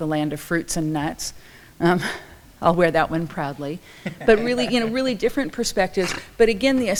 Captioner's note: laughs